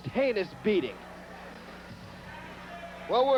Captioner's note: crowd cheering